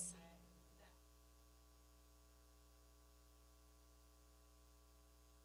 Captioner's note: person speaking away from mic